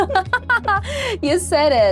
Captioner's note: laughter